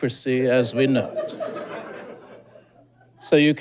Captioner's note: scattered giggling